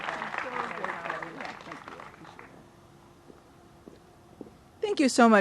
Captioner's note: applause